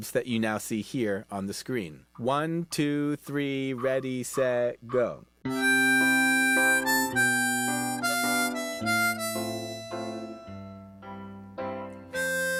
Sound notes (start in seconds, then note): 5.5 metronome clicking